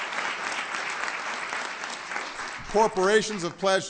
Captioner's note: applause